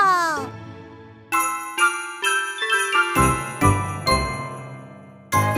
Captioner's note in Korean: 또랑또랑 경쾌한 벨소리